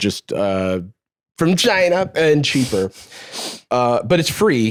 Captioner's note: normal voice